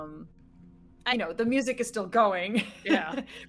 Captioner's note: laughing